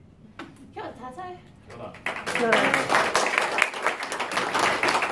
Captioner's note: applause